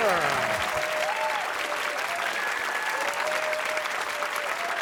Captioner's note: cheers and applause